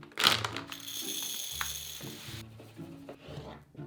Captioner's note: lentils pouring